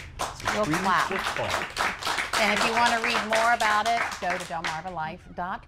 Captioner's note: applause